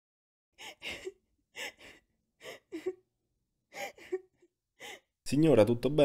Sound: woman crying

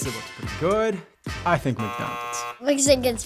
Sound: buzzer

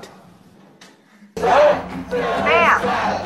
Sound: chanting 'Phil is fat!'

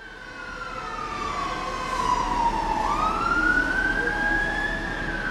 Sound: sirens

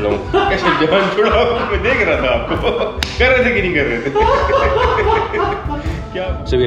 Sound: laughters

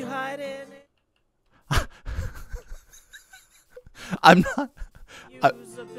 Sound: guitar music fading in then out; confused laughter

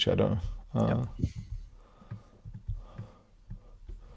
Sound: keyboard clacking

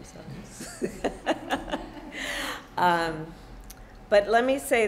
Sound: laughter

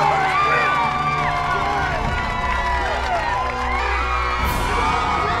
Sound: crowd cheering

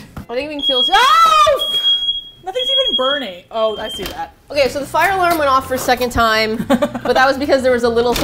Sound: fire alarm sounds

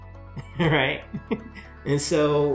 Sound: chuckles

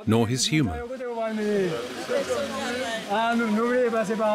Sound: creole spoken audio

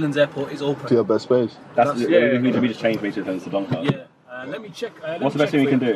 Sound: all mumbling

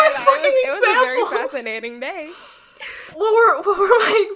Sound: laughing

